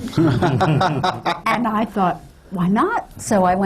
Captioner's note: laughter